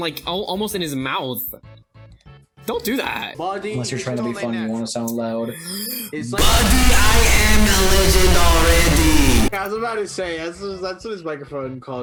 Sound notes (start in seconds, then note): 3.5 mocking; 5.5 inhales